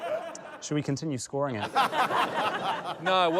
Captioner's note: laughter